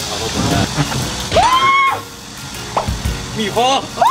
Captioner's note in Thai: เสียงกรีดร้องที่คุ้นเคย